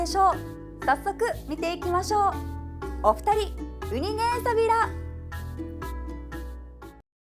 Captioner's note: in Okinawan